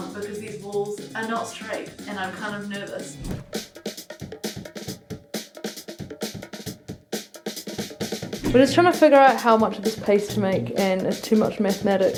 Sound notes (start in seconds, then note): 3.1 swoosh; 4.0 upbeat drums